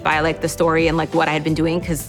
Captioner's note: none